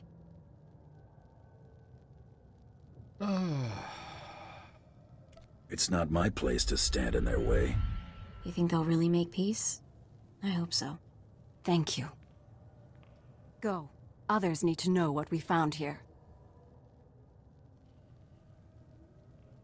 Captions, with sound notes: (sighing) It's not my place to stand in their way. You think they'll really make peace? I hope so. Thank you. Go, others need to know what we found here.